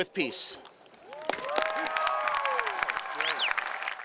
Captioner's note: cheering, applause